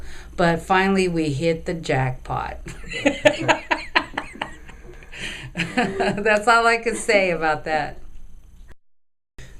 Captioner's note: laughing